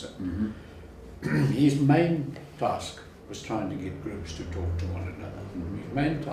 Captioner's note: cough